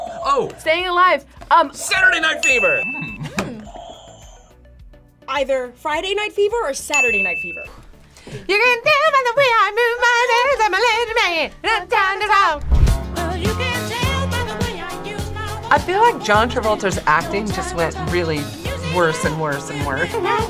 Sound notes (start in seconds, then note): 2.4 bell rings; 2.4 buzzer rings